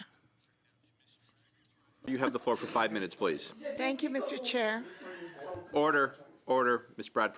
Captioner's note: speaking French